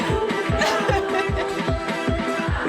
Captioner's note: laughs